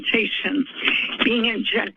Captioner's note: paper rustling